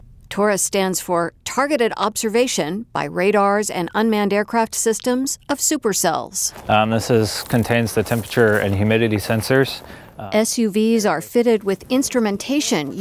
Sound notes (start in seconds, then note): none